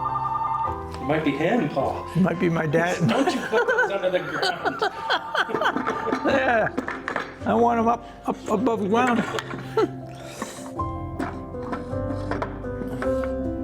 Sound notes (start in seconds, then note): 4.8 laughing